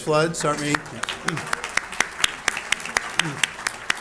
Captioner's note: applause